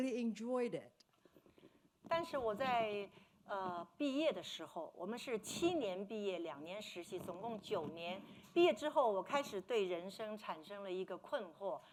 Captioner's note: speaking Mandarin